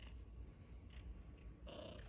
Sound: cat makes grunty noise

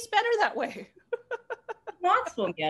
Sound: laughter

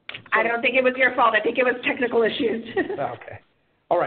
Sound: laughs

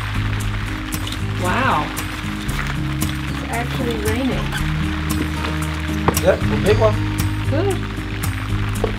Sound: sound of rain

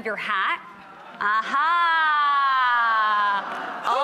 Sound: audience ahhhhhs

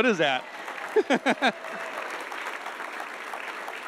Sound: laughs

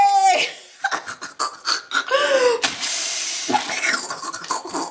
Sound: mom laughs

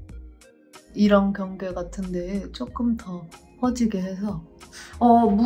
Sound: speaking in Korean

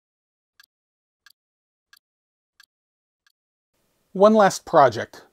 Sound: ticking sound

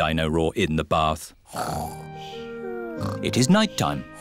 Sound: snoring

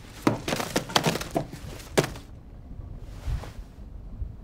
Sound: money thudding

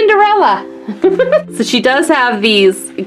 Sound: laughs

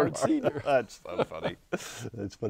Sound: laughing

